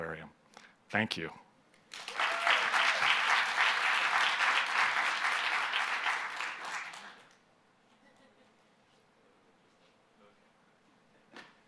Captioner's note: applause